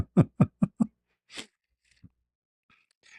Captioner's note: ketawa